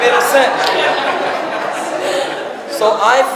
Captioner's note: audience laughs